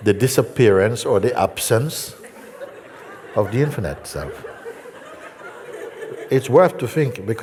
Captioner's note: laughter